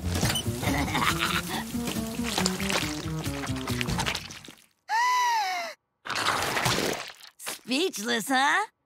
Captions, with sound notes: [laughing] [gasping] Speechless, huh?